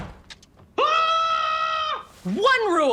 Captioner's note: screams